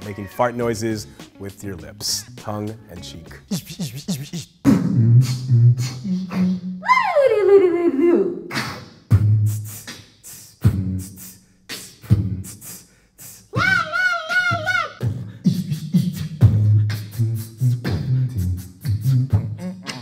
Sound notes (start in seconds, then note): 4.1 beatboxing; 8.4 beatboxing; 15.8 beatboxing